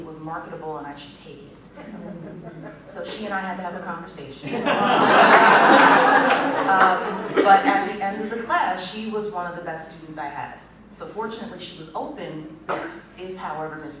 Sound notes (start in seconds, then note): 1.9 laughter